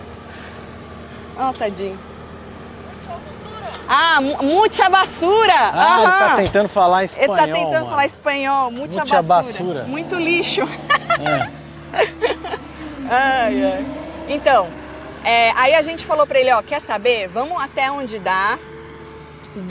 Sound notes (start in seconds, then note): 7.1 he is trying to speak in Spanish